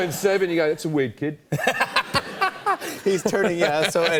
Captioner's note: laughter